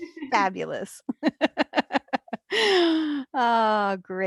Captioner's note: laughs